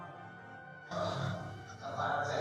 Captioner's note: groaning